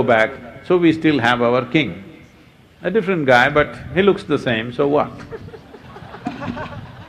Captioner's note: laughter